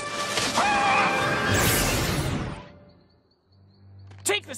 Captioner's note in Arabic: صراخ